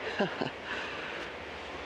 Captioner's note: laughs